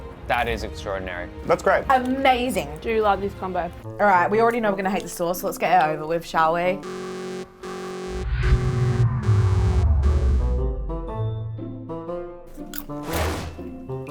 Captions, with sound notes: - That is extraordinary. - That's great. - Amazing! - I do love this combo. - All right, we already know we're gonna hate the sauce, so let's get it over with, shall we? (alarm buzzing) (playful music)